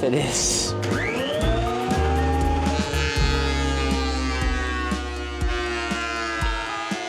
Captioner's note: mellow music; planer buzzing